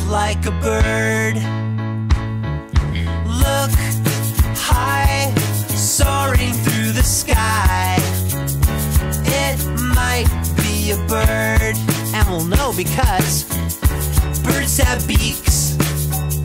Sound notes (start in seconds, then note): none